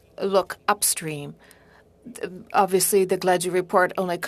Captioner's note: speaking French